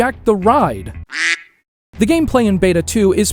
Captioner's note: duck sound